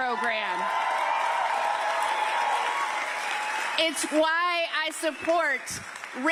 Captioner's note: cheers and applause